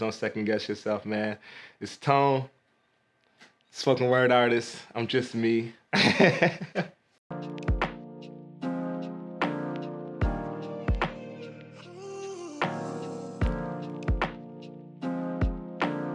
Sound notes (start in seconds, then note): 6.0 laughing